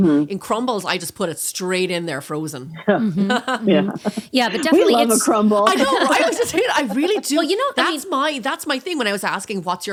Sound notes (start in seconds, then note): 2.9 laughing